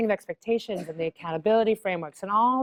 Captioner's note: cough